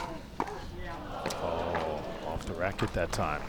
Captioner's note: crowd groans